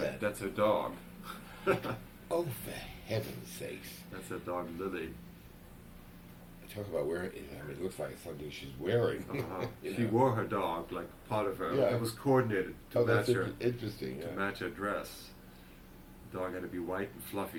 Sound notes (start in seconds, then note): 1.4 laughter; 9.2 laughs